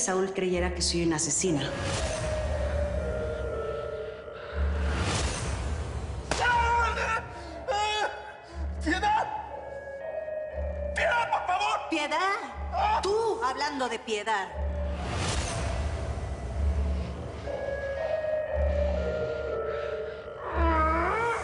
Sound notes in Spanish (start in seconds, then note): 6.2 Disparo; 7.5 Quejidos